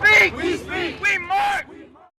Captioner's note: crowd